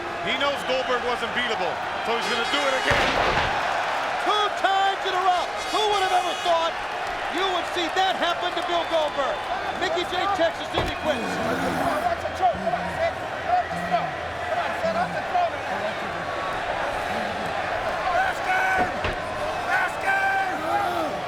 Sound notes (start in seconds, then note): 2.9 Goldberg thuds; 10.9 ref vocalizing; 11.2 Goldberg grunting; 18.3 crowd shouting